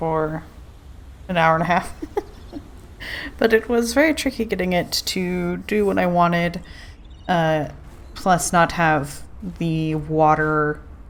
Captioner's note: laughs